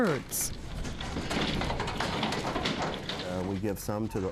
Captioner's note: hooves clattering